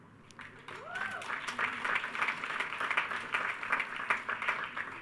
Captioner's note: attendees cheering